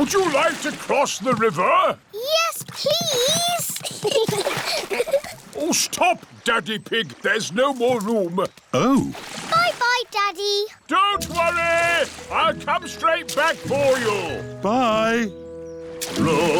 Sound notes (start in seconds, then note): 3.6 giggles